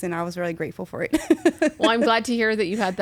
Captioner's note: laughing